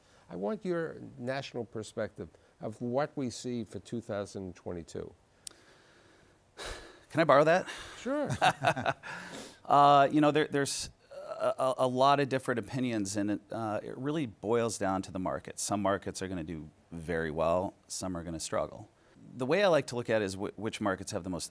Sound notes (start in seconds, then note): 7.6 laughs; 7.6 sighs